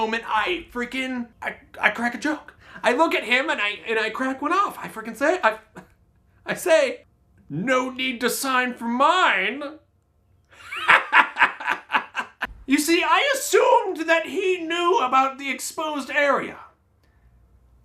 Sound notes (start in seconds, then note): 10.5 laughs